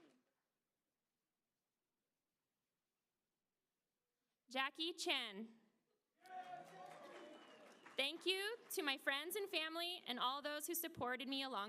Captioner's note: applause